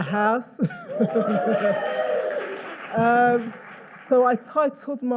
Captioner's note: audience cheering and applauding